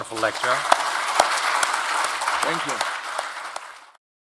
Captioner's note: audience clapping